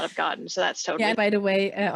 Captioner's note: laughs